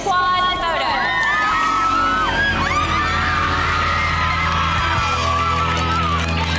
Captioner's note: cheerleaders applaud and cheer